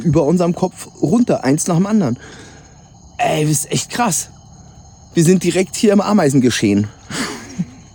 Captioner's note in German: räuspern